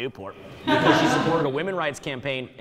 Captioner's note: audience laughing